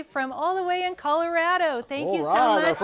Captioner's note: applause